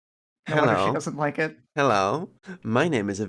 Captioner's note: seductively